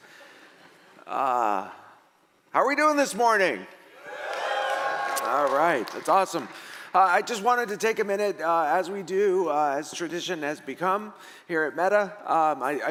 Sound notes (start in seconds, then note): 4.0 audience cheering